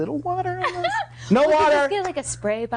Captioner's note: laughing